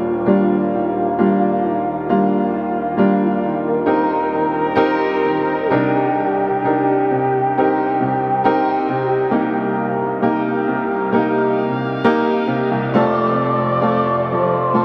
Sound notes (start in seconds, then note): 5.8 clouds wooshing